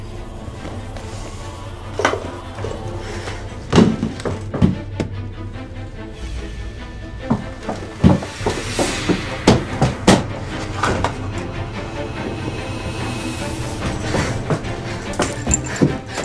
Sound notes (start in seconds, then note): 4.1 dramatic music; 9.5 banging; 12.2 dramatic music